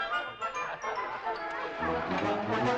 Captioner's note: crowd chattering